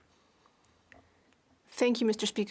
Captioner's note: speaking French